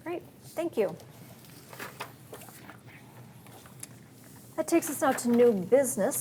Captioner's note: papers rustle